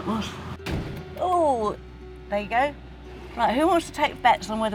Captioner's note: another bang